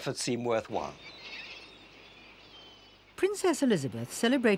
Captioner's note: birds cawing